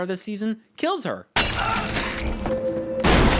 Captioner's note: Slash, Evelyn straining; boom